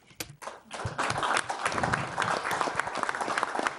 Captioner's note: clapping